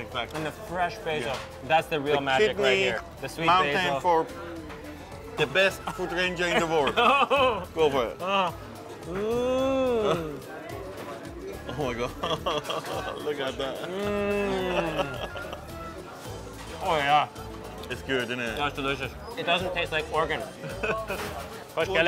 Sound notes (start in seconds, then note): 6.6 laughing; 9.1 moans; 12.0 laughing; 13.8 moans; 20.6 laughs